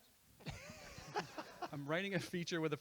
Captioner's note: laughter